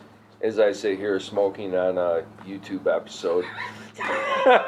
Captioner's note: laughter